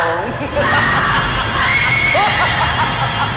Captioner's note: cackling; Liz screaming